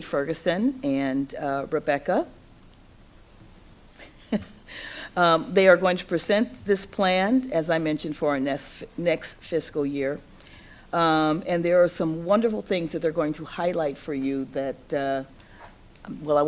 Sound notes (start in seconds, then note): 4.2 laughs